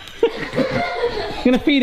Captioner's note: all laughing